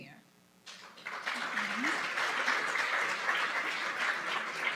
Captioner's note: applause